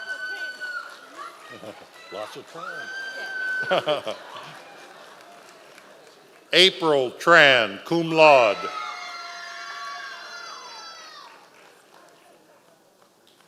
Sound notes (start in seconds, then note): 3.6 laughs; 7.9 members of the audience cheering